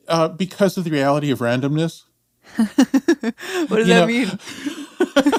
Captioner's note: laughs